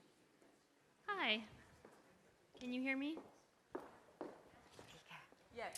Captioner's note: footsteps